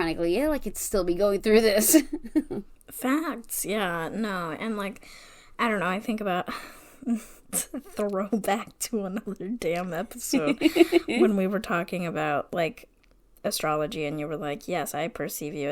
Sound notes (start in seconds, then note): 6.8 laughing